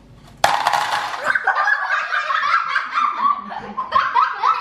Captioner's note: laughter